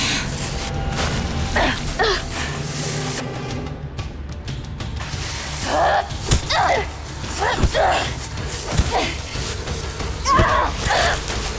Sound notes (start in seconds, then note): 1.5 Sasha groans; 4.5 slow music continues; 6.1 both grunting